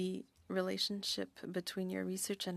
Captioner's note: speaking French